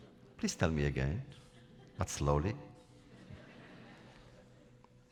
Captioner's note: laughter